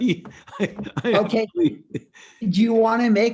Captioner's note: laughs